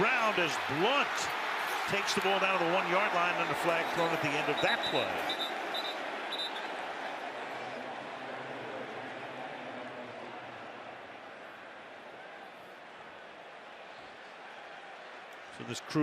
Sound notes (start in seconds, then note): 6.0 whistling